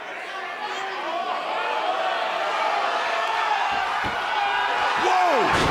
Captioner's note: cheers and applause